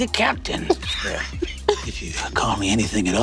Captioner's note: Lou laughing